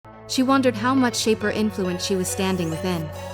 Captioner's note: voiceover